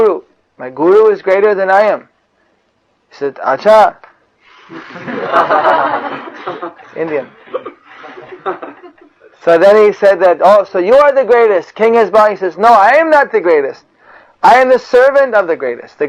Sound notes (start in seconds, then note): 4.7 laughter